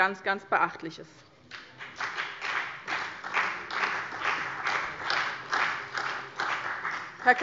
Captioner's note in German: Beifall bei dem BÜNDNIS 90/DIE GRÜNEN und der CDU